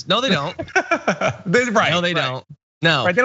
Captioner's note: laugh